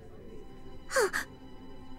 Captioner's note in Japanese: 息を呑む